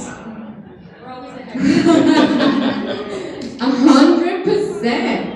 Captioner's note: laughing